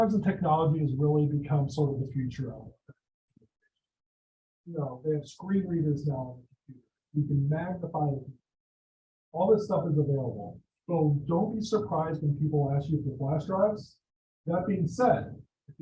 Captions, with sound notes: and technology has really become sort of the future [audio drop] They have screen readers now you can magnify All this stuff is available so don't be. surprised when people ask you for flash drives. That being said,